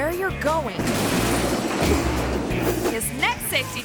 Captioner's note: boxes thud